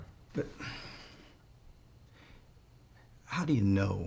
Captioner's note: sighs